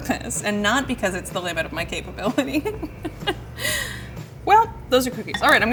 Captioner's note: laughs